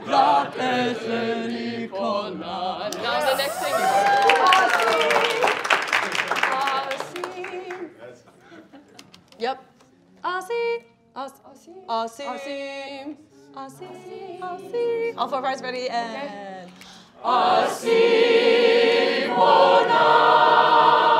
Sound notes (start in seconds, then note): 0.2 singing in foreign language; 3.3 cheering; 3.6 applauding and cheering; 8.2 speaking faintly; 17.3 singing in foreign language